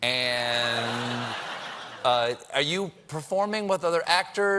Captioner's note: laughter